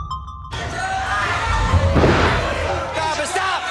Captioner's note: cheers and applause